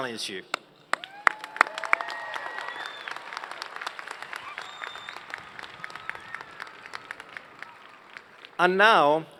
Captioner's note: cheers and Applause